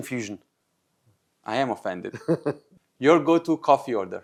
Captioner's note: laughing